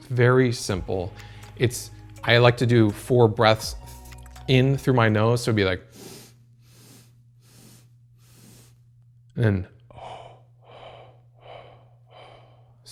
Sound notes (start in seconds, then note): 5.9 inhaling; 9.6 exhaling